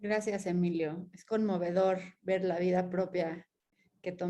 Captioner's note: speaking in Spanish